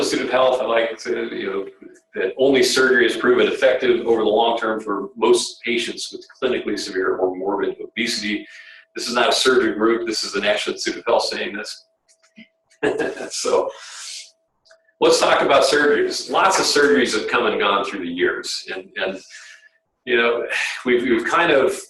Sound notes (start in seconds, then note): 12.8 laughter